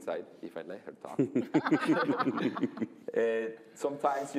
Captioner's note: laughter